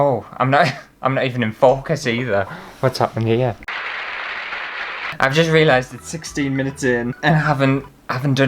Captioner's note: applause